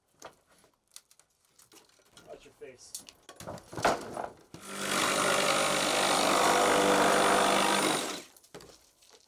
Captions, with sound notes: Watch your face. (saw whirring)